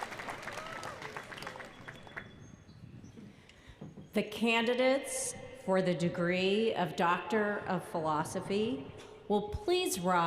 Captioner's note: applause